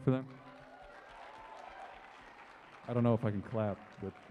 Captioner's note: cheering and applause